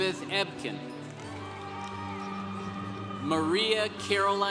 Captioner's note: congregation cheering